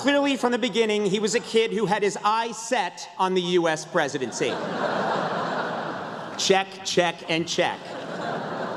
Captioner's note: laughter